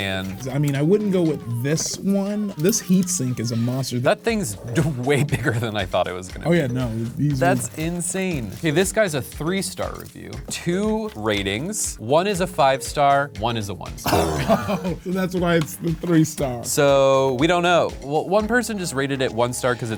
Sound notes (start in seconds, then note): 14.0 laughs